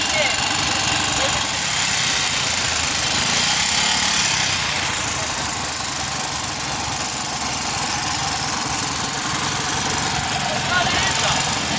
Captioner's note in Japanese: エンジンの音